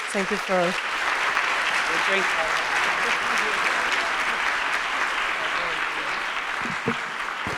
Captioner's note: applause drowns speakers; audience applauding